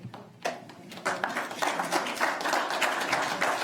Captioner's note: applause